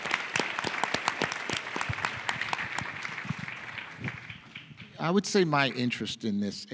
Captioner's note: applause